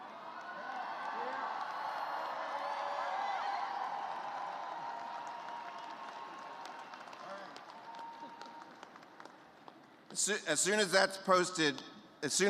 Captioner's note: cheers